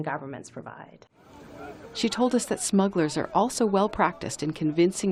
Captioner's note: voice-over